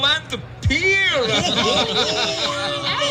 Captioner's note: laughter